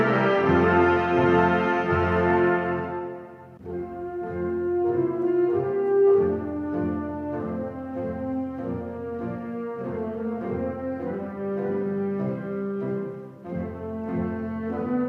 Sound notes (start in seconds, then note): none